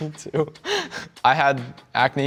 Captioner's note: laughs